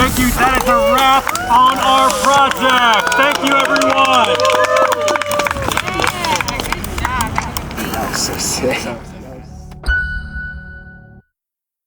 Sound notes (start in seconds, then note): 4.6 people whooping; 9.9 mellow piano chord